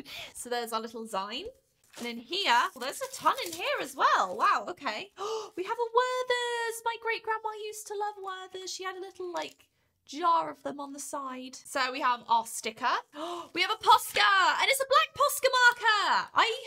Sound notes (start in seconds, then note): 5.1 gasp